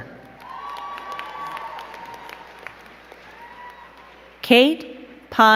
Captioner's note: crowd cheering and clapping